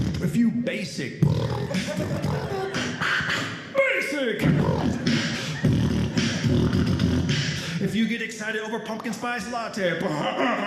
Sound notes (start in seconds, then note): 0.0 beat boxing